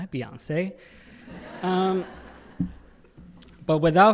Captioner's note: audience laughing